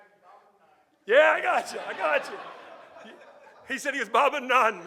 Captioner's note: audience laughing